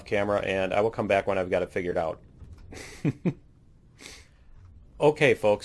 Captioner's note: laughs